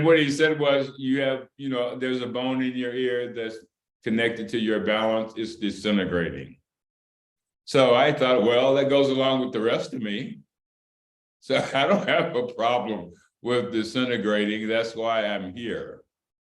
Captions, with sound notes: and what he said was "you have, you know, there's a bone in your ear that's connected to your balance, it's disintegrating." So I thought, well, that goes along with the rest of me (Laughter) so I don't have a problem with disintegrating, that's why I'm here.